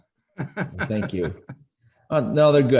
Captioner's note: laughs